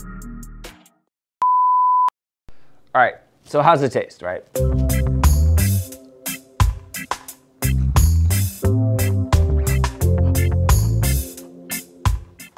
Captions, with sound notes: (loud beep) All right, so how's it taste, right? (upbeat island music)